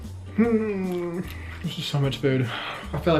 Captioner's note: groans